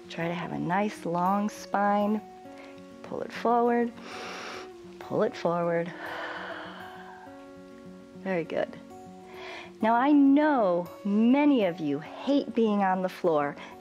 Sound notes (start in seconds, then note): 5.9 exhales; 5.9 inhales